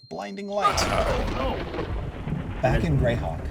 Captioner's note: thunder crackles